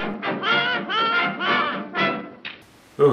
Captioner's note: laughs